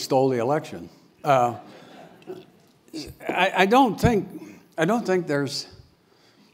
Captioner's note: laugh